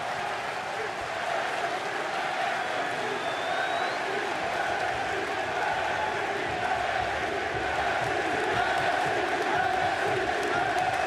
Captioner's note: crowd cheering